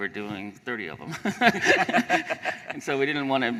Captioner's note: laughter